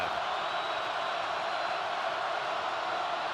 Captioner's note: crowd cheering